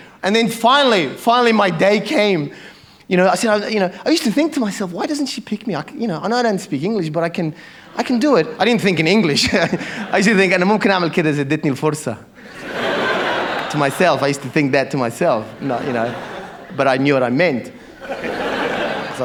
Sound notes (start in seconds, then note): 11.1 speaks in arabic